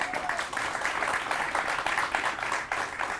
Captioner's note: applause